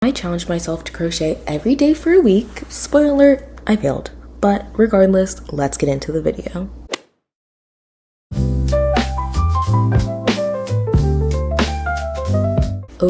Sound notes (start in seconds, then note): 6.9 golf hit sound effect